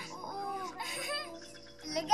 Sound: Ethel giggles

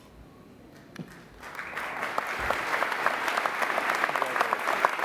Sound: applauding

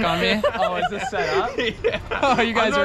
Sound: group laughs

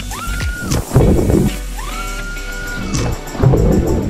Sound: splashing

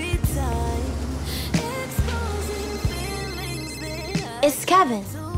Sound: phone ringing

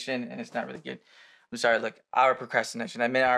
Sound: he takes a breath

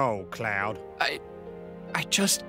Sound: choking up

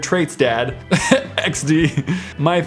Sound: giggles

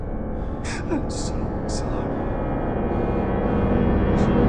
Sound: crying

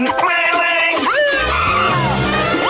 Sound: siren blaring

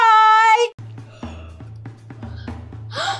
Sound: drum beating; assistant yawning

